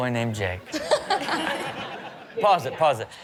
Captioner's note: all laughing